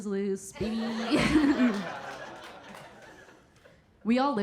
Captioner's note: audience laughing; Keira chuckling